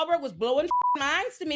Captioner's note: beep